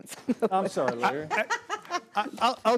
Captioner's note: laughing